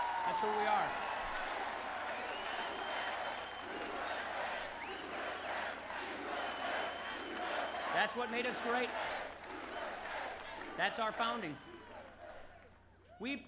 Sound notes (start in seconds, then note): 0.2 applause; 4.1 Crowd chants "USA"